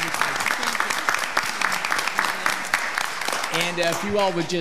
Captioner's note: all applauding